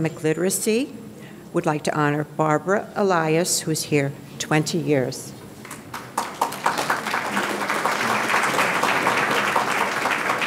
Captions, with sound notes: would like to honor Barbara Alias who is here 20 years. (audience clapping)